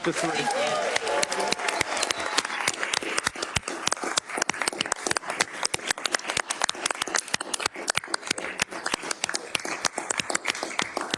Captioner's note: applause